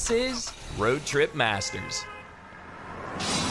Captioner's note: car horn